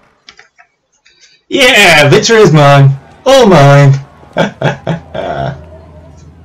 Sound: snickers

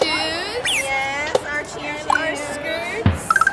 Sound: video game sound effects

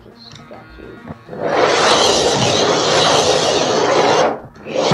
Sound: whirring; scrape

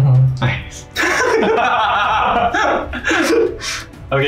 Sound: laughs

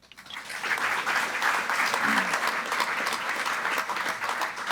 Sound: group applauding

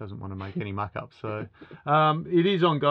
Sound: laughing

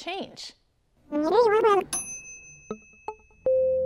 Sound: dinging

